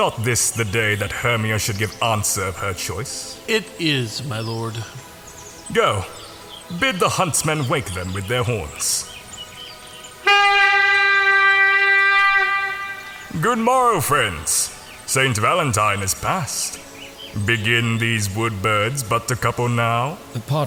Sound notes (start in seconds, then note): 10.2 A hunting horn is blown